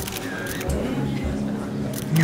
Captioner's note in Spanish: Clic de la cámara